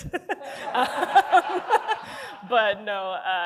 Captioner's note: laughter